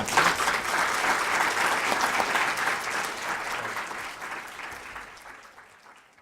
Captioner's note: applause